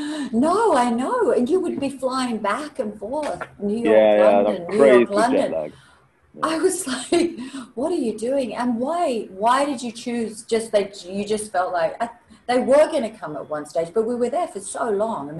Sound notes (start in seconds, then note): 7.3 laughs